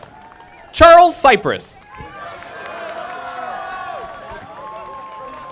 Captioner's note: audience applauding